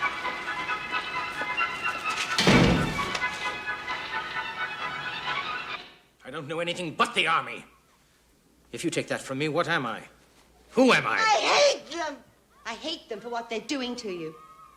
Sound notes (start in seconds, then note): 2.0 door slams shut